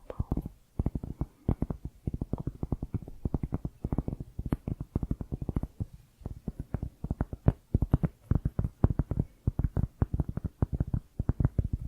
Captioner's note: tapping on cork